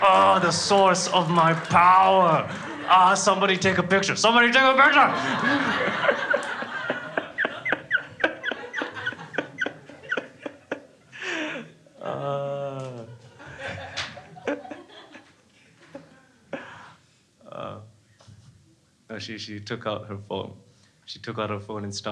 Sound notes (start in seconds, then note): 4.7 crowd laughing